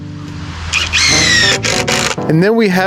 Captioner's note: drill whirring